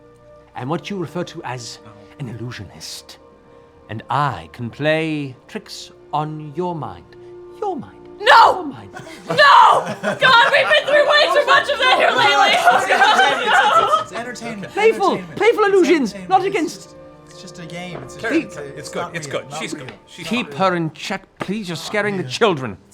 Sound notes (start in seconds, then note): 9.0 shouting